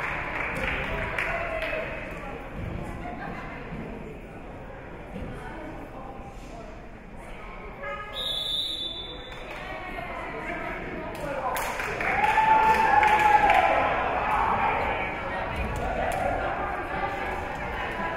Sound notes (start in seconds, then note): 8.1 whistle being blown; 11.7 spectators cheering and applauding